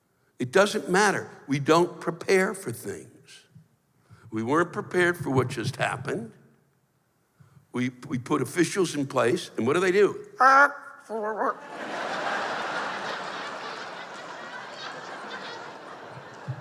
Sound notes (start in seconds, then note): 10.4 silly sounds; 11.6 laughter